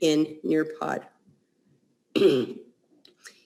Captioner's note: clears throat